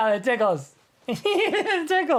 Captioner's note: giggling